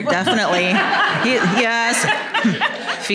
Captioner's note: laughter